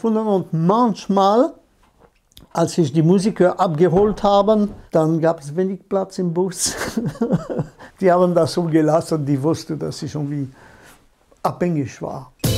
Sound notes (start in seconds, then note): 6.6 laughter